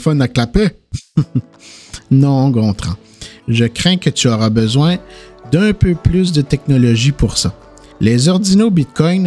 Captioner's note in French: rires